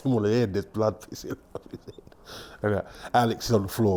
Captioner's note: laughs